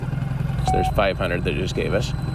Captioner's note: magnetometer beeps